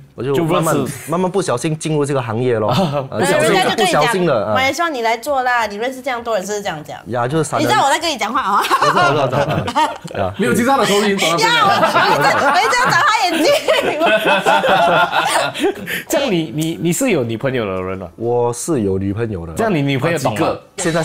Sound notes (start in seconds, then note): 9.3 laughs; 14.2 laughs